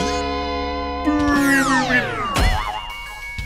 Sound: groaning

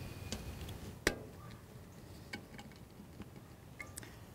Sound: snapping

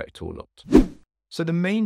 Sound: air whooshing

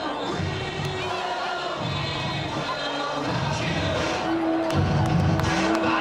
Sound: crowd cheering

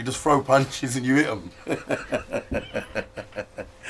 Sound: laughs

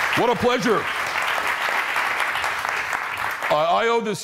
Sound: applause

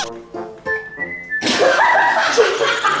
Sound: bursts out laughing

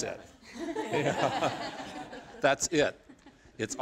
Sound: laughter

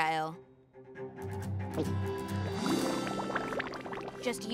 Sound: gulp

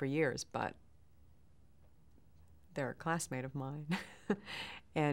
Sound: chuckles

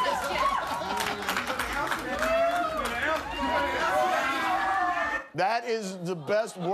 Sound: cheers and applause

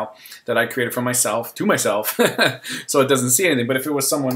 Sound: laughs

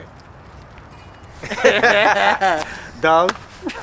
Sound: laughter

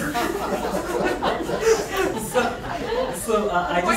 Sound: laughs

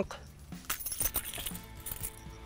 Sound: keys clanking

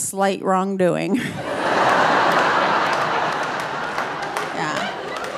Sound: audience laughing

